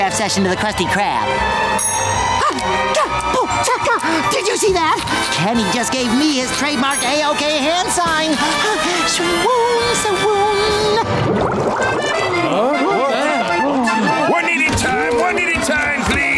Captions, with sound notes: session to the Krusty Krab? Oh! Did you see that? Kenny just gave me his trademark A-OK hand sign! [swooning] One at a time, one at a time, please!